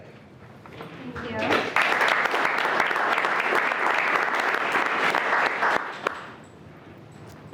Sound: everyone clapping

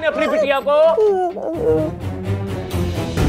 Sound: sobbing

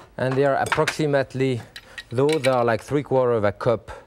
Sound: none

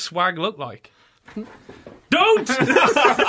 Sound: unzipping noise; laughter

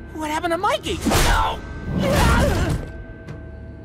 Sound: grunting

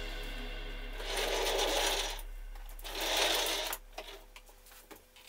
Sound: the sound of movement of the chair, the wheels move

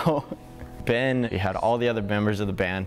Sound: laughter

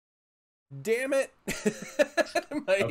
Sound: chuckling

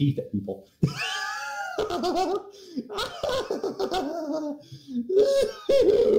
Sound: wheeze

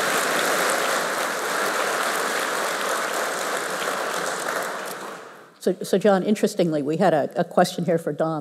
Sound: applause

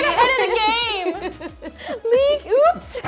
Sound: laughs

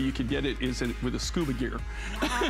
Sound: laughter

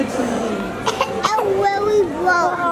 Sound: coughing

